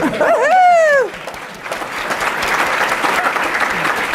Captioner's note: cheers and applause